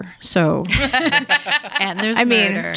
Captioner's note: people laughing